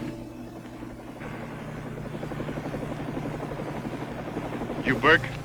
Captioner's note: helicopter engine roaring